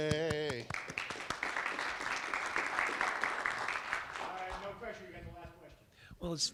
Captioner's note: applause